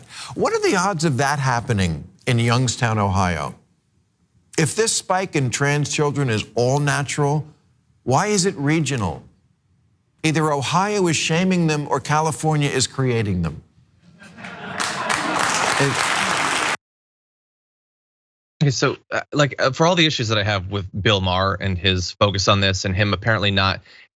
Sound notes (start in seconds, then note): 14.1 laugh; 14.6 applause